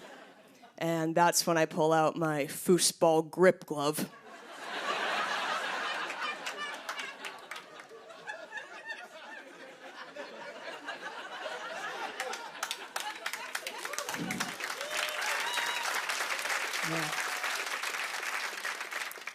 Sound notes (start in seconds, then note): 4.2 laughter; 12.0 cheers and applause